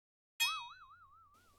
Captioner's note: comedic boing